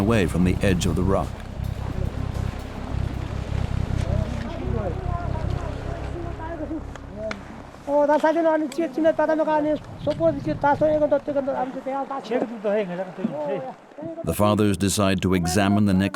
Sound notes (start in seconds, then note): 4.7 speaking foreign language